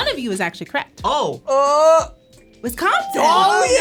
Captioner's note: exclaims